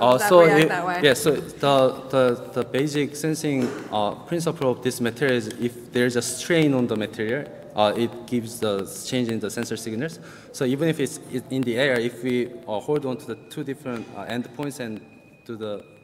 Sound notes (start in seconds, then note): 12.8 timer ringing